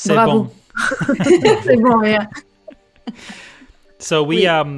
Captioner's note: laughter